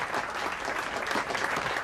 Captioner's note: crowd claps